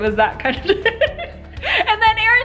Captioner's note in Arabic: يضحك